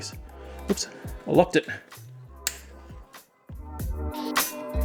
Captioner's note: click - torch turns on